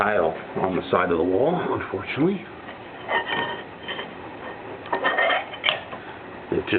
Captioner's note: sound of tile scraping as I move it